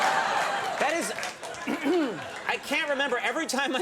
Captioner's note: audience laughs; clears throat